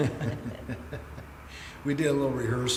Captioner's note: laugh